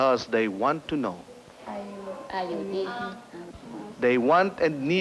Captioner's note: people conversing